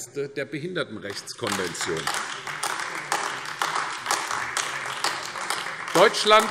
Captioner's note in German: Beifall AfD